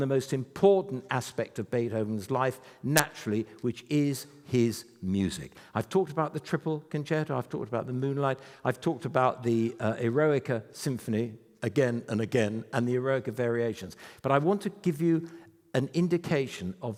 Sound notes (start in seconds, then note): none